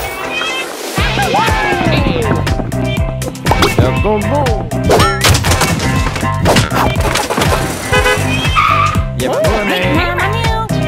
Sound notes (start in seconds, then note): 1.0 cheers; 7.7 brakes screech; 7.8 honks